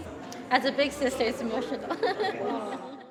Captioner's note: laughs